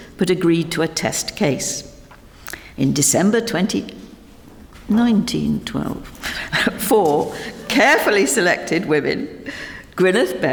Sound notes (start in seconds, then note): 5.8 chuckles